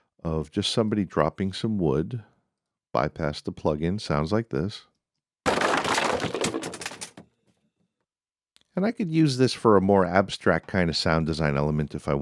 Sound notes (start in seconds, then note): 5.4 crashing